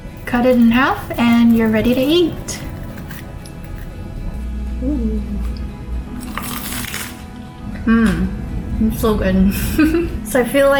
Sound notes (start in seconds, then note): 6.2 crunch; 9.6 laughs